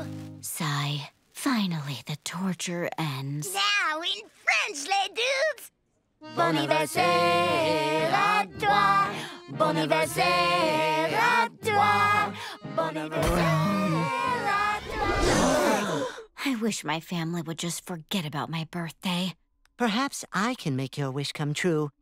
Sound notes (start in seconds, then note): 15.1 all gasp